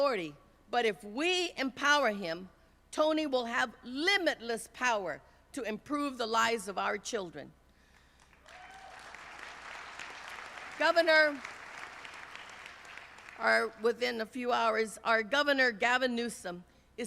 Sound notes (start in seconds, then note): 8.0 applause